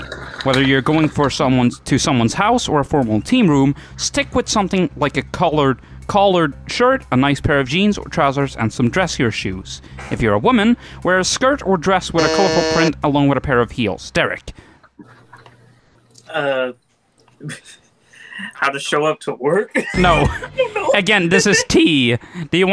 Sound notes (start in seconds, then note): 12.2 buzzes; 17.4 snicker